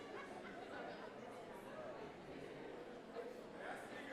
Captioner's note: crowd talking